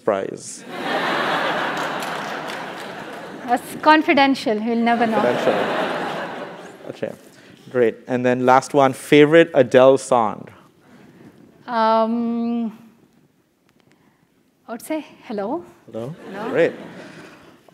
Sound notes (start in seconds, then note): 0.8 laugh; 5.0 laugh